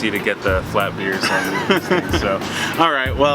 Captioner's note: laughs